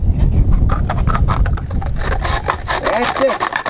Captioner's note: rock scraping sound